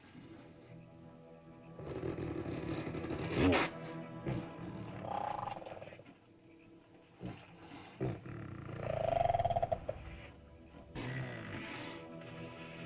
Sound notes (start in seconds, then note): 0.1 ominous music; 1.7 dinosaur grumbles; 1.7 ominous music